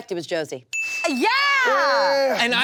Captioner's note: bell dings